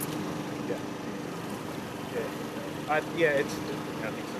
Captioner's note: indistinct chatter